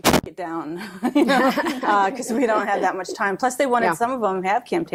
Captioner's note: laughs